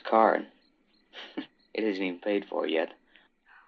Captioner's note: chuckles